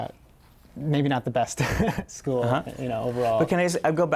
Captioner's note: laughter